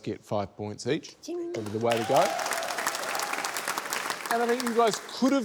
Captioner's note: cheering, applause